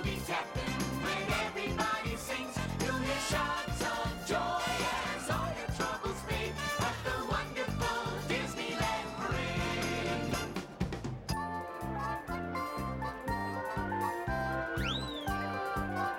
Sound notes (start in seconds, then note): none